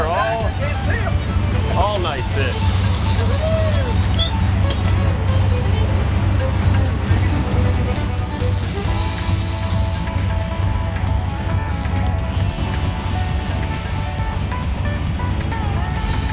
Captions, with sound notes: These are all, all nice fish. (funky country music) (fishing lines reeling)